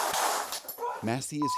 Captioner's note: gunshots